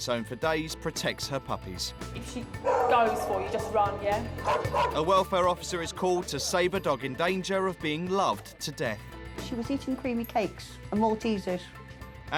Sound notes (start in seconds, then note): 4.6 dog barking